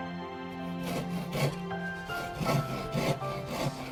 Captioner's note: sawing sound